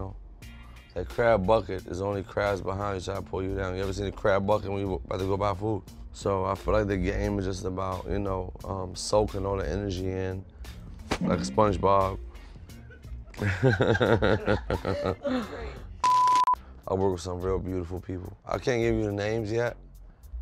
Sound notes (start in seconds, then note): 12.4 beep; 12.7 laughing